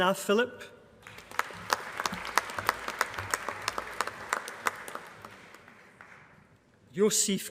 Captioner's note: applause